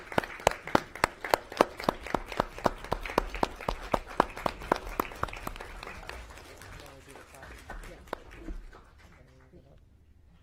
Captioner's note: applause